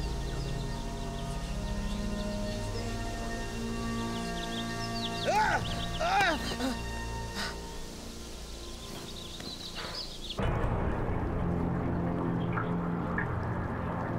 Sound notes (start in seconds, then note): 5.2 screams; 10.3 ominous orchestral music; 11.1 water bubbling